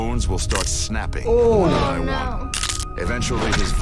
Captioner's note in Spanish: huesos rompiéndose